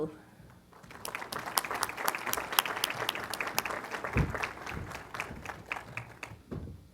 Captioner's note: applause